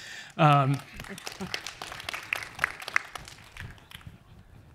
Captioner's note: applause